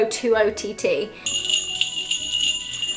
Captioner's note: jingling bells